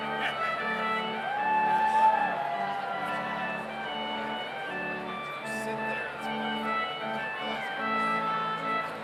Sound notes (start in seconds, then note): 1.2 audience cheers; 2.0 slow organ music continues